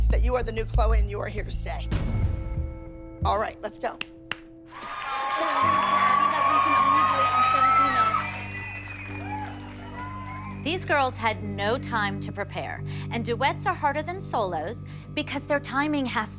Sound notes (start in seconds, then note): 4.7 cheering; 4.8 claps